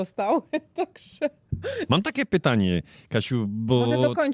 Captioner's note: śmiech